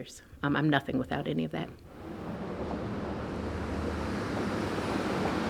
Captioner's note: car engine revving